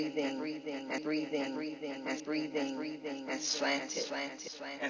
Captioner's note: echoes